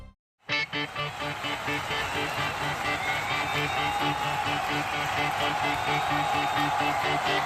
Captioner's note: crowd cheering; upbeat music